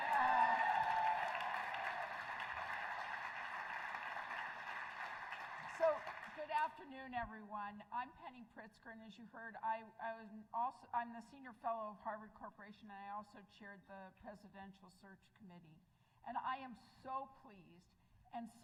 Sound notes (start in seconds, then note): 4.9 crowd noise